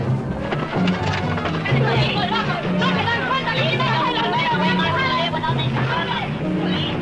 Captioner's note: men speaking in Spanish